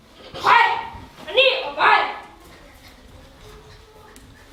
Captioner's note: foreign language